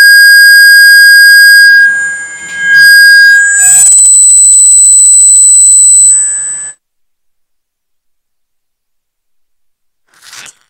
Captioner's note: feedback